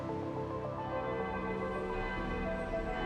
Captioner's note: bells tolling